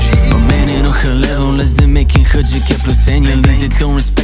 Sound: bling, bling

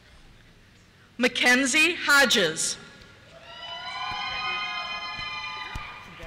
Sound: cheers

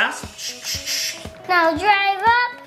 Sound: air hissing

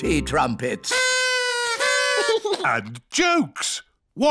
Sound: blowing

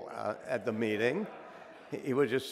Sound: audience laughing

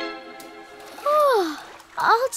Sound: yawning

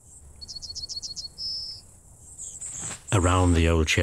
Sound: yellow hammer chirps

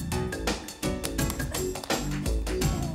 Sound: clapping

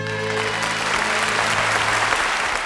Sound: audience applauding

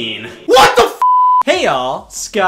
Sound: beep

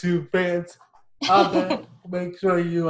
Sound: chuckles

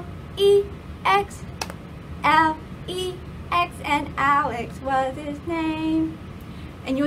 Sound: clap

